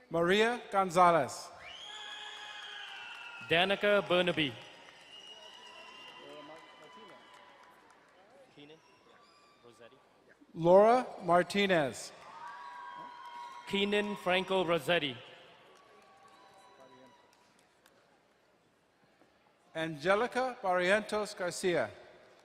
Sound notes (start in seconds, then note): 1.6 crowd cheering and applauding; 5.0 crowd cheering; 12.1 crowd cheering and applauding; 15.5 distant cheering